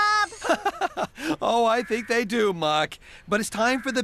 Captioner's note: chuckling